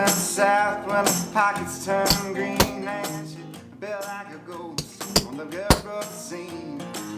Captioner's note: hammering